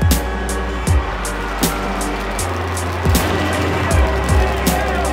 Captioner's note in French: acclamations